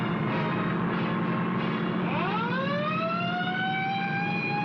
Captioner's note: police siren wailing